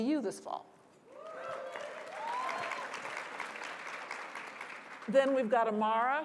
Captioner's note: applause